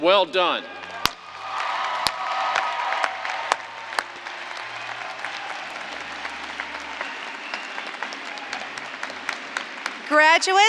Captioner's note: applause